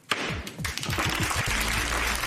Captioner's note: bangs gavel; applause